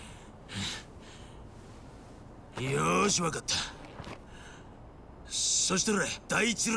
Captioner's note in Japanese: 鼻息